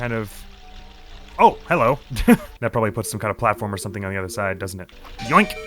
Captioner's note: laughs